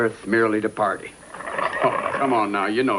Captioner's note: growling